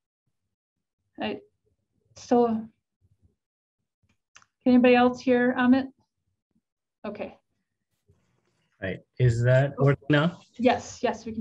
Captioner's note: silence